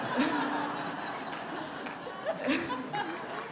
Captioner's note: laughter